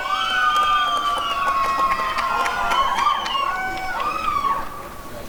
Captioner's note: applause and cheering